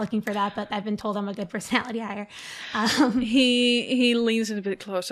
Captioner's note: laughs